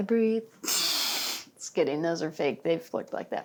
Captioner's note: sniffs